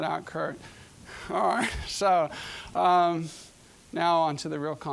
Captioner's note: chuckling